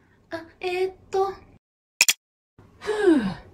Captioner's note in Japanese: クリックする音